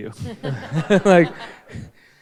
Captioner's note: all laughing